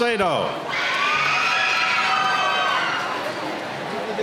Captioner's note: cheering